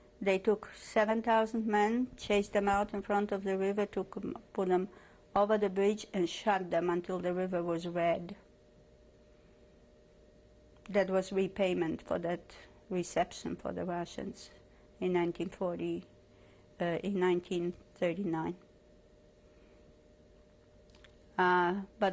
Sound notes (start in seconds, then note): 8.3 pauses for 3 seconds